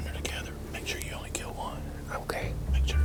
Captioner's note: whispering